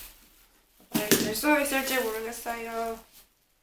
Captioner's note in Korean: 뭐 떨어트림